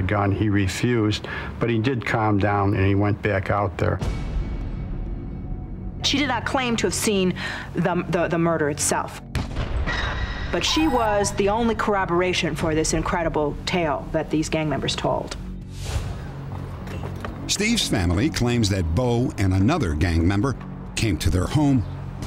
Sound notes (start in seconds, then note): 9.3 gun shot firing